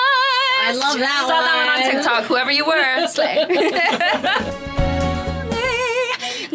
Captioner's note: laughs